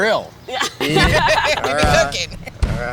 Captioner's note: laughter